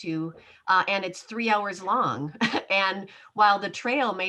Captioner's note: chuckles